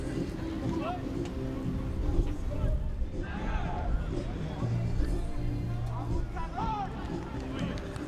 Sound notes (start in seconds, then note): 2.7 fans talking in foreign language